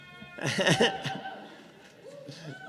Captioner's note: laughs